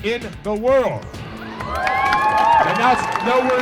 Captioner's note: audience cheering and applauding